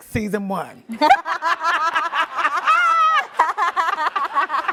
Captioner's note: laughing